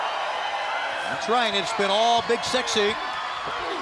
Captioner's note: crowd cheering